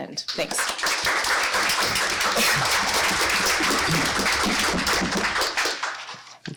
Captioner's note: applause